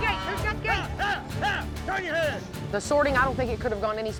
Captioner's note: cowboy yelling